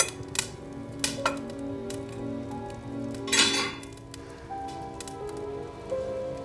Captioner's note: engine roaring; fire crackling; suspenseful music